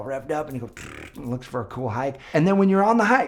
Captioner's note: mouth trills